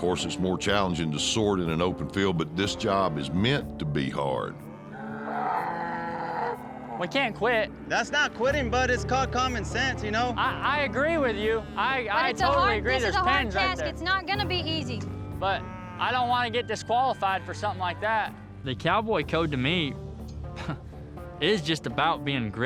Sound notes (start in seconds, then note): 4.6 cows mooing